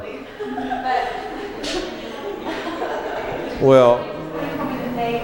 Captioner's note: laughter